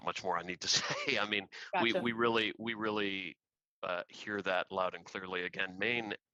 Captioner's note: laughter